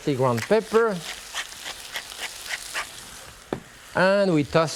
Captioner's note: grinder grating